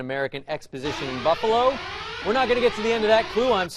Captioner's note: siren